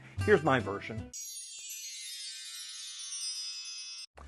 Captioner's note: chime sounds